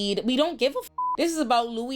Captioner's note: beep